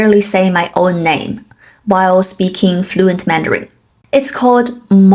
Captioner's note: while speaking fluent Mandarin